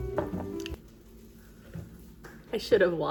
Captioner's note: licking lips